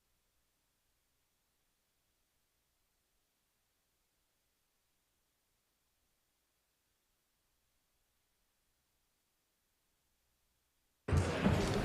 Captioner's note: applause